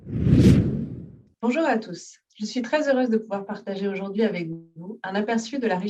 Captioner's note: speaking in French